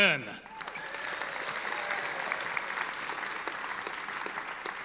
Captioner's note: audience applauding